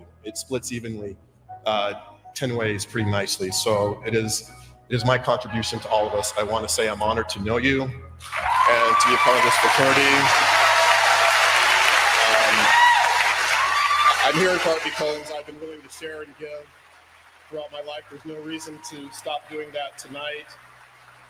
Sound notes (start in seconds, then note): 8.4 applause